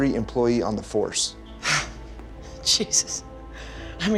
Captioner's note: scoffs